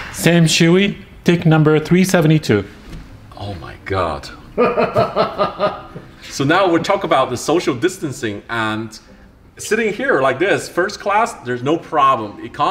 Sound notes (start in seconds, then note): 4.5 man laughs